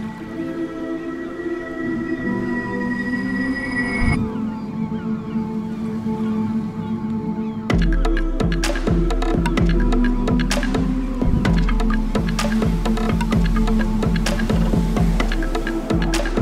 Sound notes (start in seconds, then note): 4.4 birds cawing; 13.5 wheels whirring